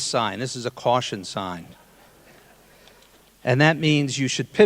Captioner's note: audience laughing